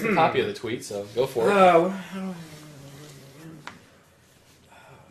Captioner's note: sighs, then mutters